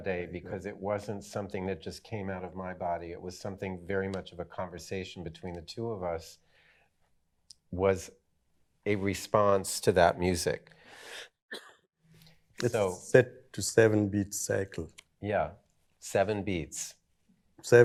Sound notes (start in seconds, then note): 11.5 coughs softly